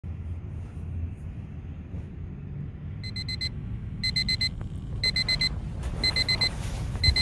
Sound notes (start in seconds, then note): 4.0 alarm ringing